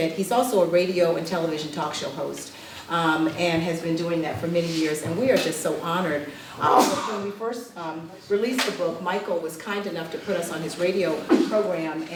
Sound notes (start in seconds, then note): 6.6 ah-choo